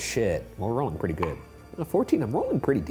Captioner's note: dice clinks